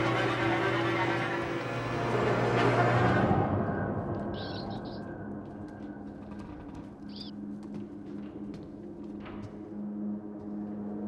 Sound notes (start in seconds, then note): 4.0 pensive music; 4.0 rat chattering